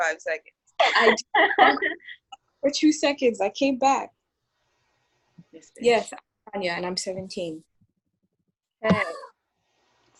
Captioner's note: laughing